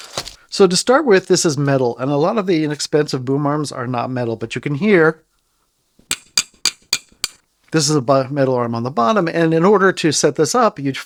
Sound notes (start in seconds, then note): 6.1 metal clanking